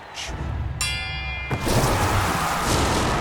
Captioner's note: dinging